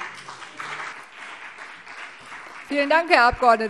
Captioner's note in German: Beifall BÜNDNIS 90/DIE GRÜNEN und vereinzelt CDU